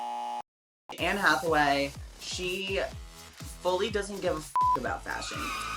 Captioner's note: beep